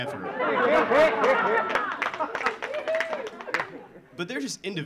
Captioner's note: audience laughing; audience clapping